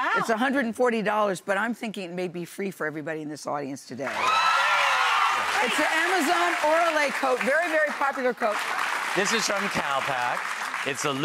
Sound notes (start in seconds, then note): 4.1 audience cheers